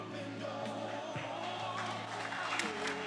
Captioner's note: attendees applauding